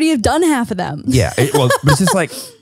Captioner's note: laughs